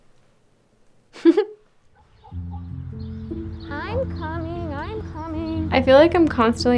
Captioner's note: laughing